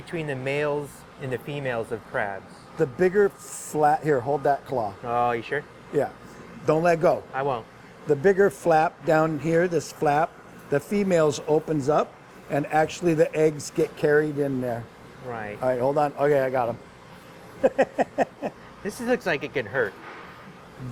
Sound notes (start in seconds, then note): 17.6 laughing